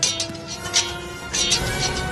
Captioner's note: sword scrape; sword strike